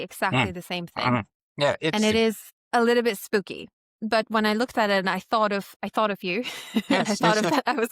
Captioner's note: laughs